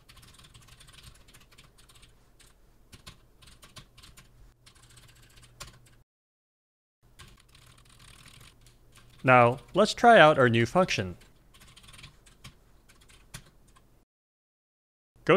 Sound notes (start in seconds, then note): 0.9 typing sounds